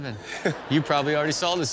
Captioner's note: audience laughs